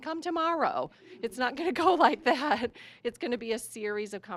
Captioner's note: laughing